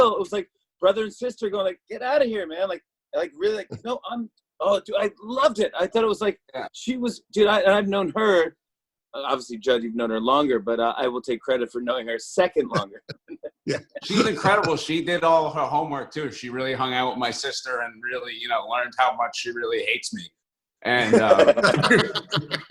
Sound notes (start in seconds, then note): 12.7 laughter; 21.0 laughter